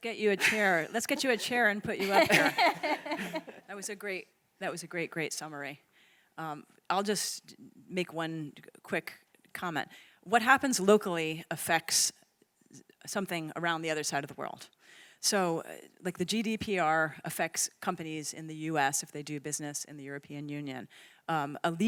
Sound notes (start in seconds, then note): 2.0 all laughing